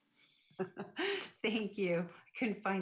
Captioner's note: chuckles